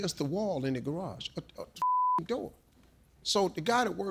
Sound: beep

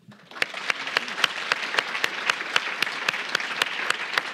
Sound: audience applauding

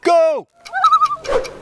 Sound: loon call

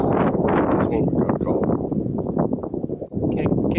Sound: gusty Wind Noise

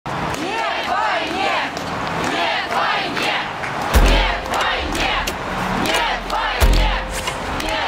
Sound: chanting

